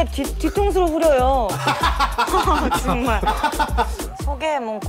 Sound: laugh out loud

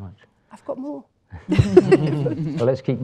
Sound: chuckles

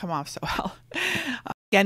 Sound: laughs

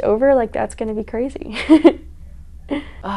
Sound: laughs

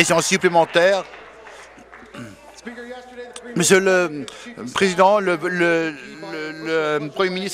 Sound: applause

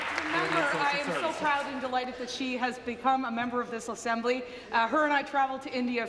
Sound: applause

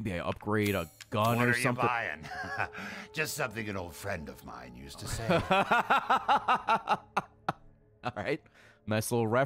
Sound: laughs

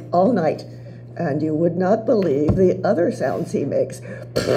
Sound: fart noise

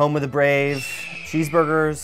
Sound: eagle screeches

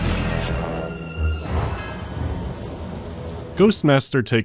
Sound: thunder crack

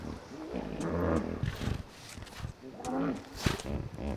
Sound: hippos grunting

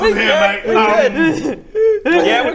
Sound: Dirk starts crying again

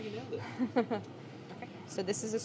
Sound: chuckling

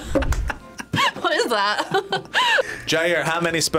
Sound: laughs; laughs

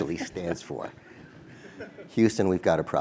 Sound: laugh

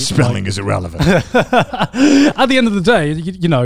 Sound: everyone laughs

